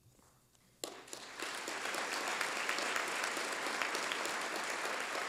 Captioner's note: applause